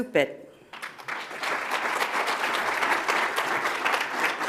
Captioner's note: audience applauds